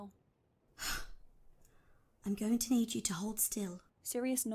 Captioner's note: Euphemia huffs